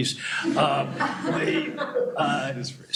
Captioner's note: laughter